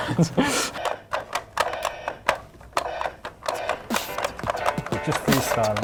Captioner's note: laughs; buttons clicking and drum sounds